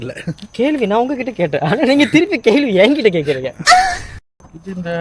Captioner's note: laughter